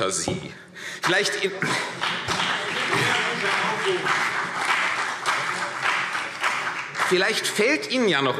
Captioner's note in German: Beifall CDU und BÜNDNIS 90/DIE GRÜNEN